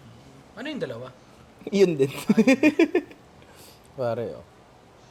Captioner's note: laughs